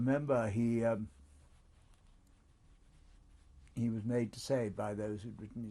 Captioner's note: pauses for 3 seconds